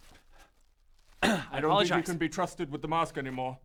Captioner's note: ahem